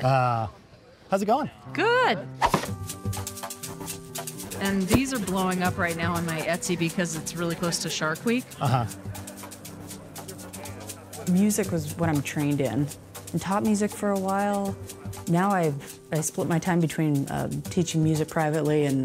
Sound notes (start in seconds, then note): 2.9 air whooshes; 2.9 lighthearted music; 9.5 lighthearted music continues